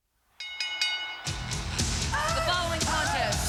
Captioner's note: bell ringing